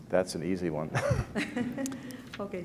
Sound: chuckle

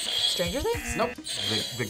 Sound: buzzer; buzzer rings

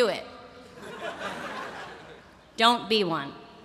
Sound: laughter

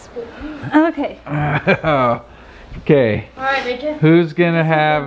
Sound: laughs

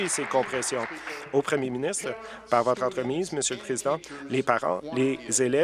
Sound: applause

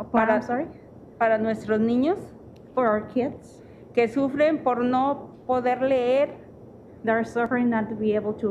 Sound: speaking Spanish

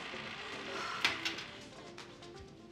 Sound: Angel sighs

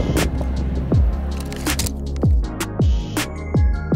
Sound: shutter clicks; upbeat music

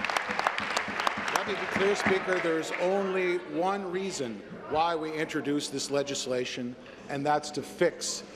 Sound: applause

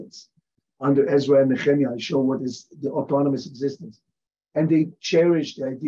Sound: hebrew

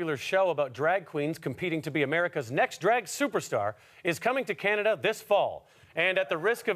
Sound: none

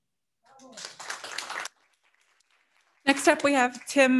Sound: audience cheering

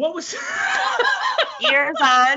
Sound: Brennan laughs

